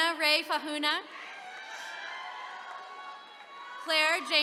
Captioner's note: attendees cheering